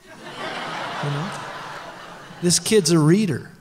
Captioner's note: laughter